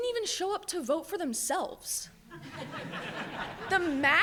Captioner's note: audience laughs